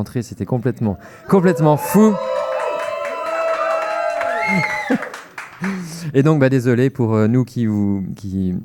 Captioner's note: audience reaction